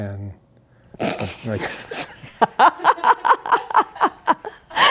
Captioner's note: everybody laughing